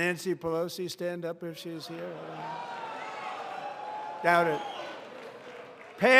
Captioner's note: applause